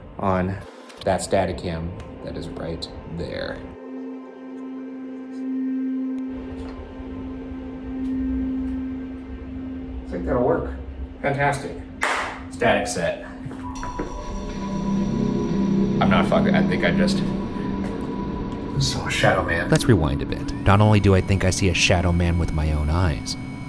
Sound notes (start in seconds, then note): 3.8 eerie music; 12.0 hands clap; 13.7 spooky music